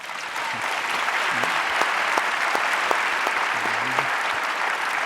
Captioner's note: audience applauding